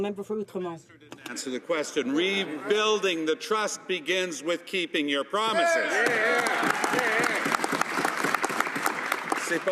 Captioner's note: some Applause